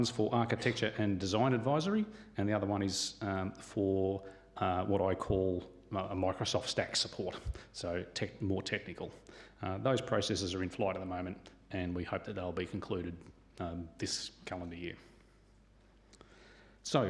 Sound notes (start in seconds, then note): none